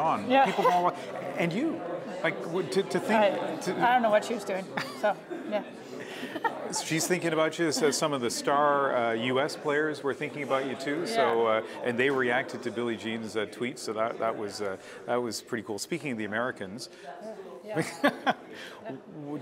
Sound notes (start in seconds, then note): 6.0 laughter